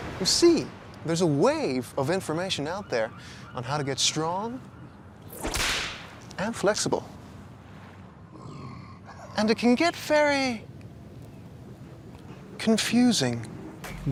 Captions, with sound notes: You see, there's a wave of information out there on how to get strong... (whip cracks) And flexible. (gorilla breathing) And it can get very confusing.